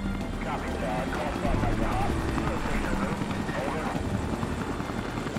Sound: helicopter blades chopping

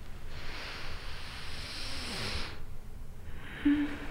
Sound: Iris sniffs

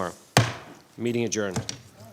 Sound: gavel bangs

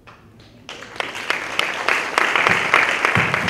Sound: applause

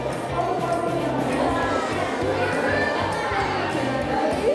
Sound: loud background chatter

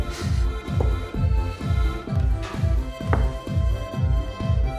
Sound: none

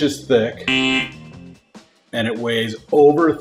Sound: buzzer

